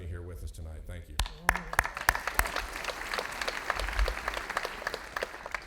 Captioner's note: audience applauding